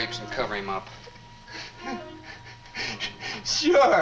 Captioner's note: Jerry sobs